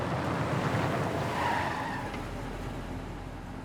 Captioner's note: tire squeal